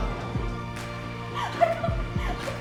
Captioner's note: rejoicing